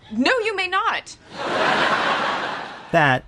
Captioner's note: crowd laughing